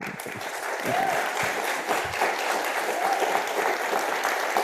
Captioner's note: audience applauding